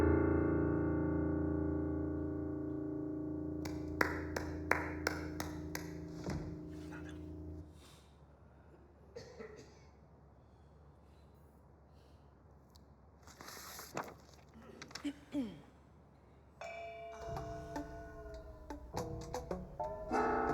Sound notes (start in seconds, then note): 0.0 piano note; 3.6 woman clapping; 9.2 man coughing